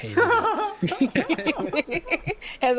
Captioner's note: laughter